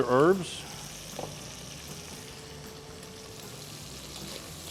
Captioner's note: bacon sizzling